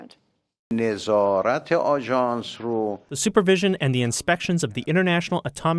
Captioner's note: through translator